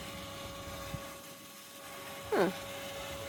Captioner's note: electric pumping noise